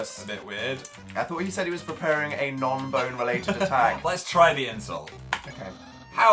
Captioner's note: laughs